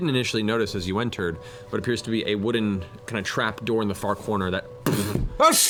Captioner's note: thud